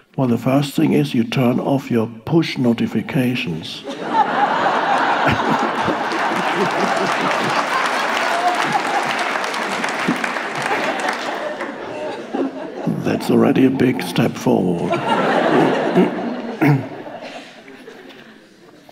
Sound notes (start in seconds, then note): 4.0 audience laughing; 4.5 audience applauding; 15.1 audience laughing